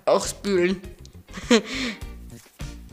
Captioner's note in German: Lachen